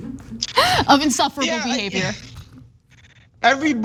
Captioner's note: laugh